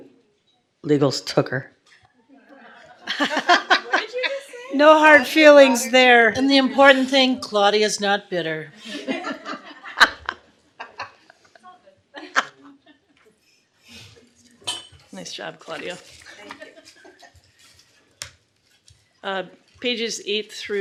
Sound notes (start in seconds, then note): 2.4 laughter; 11.1 laughter